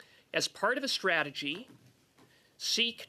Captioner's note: speaking French